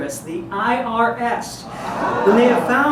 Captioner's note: audience aaahs